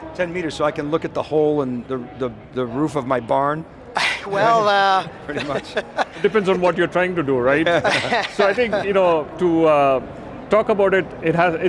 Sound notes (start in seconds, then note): 5.3 chuckling; 7.4 laughing